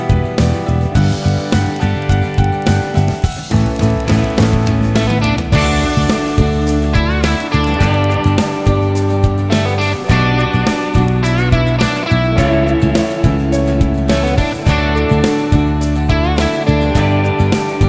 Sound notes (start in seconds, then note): 0.0 clap; 10.3 clap